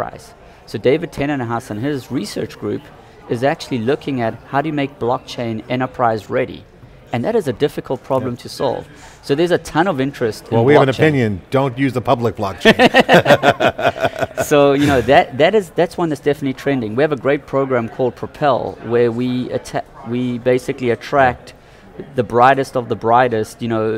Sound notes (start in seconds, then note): 12.7 both laugh